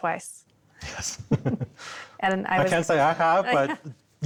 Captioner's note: laughs